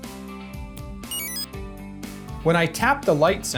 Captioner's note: exit chime